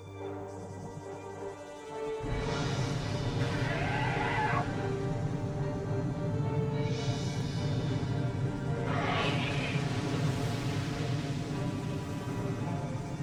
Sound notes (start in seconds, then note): 2.3 thunder; 3.5 roars